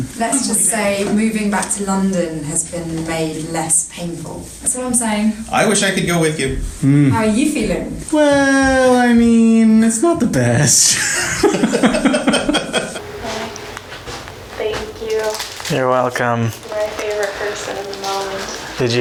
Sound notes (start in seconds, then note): 10.8 laugh; 10.9 laughing